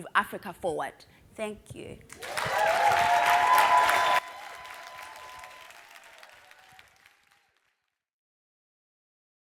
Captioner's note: cheers and Applause